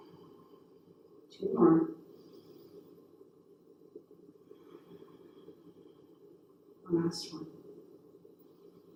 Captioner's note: breathes heavily